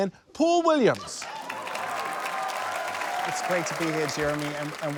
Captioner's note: cheers, applause